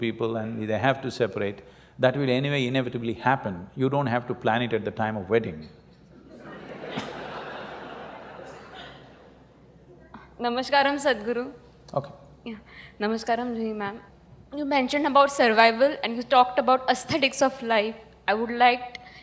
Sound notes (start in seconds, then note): 6.2 laughter